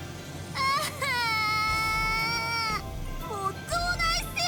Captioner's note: far-off sob